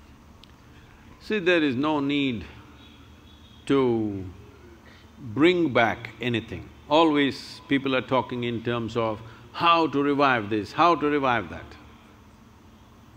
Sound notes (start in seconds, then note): none